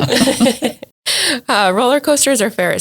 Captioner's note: laughs